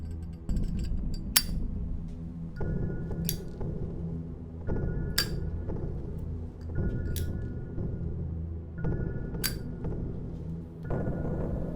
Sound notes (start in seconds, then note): 1.3 lighter clicking; 8.8 ominous music